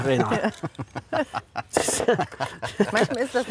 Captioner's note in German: lachen